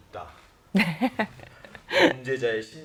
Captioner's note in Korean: 웃음